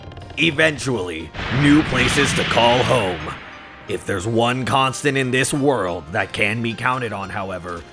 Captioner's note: house falling over sounds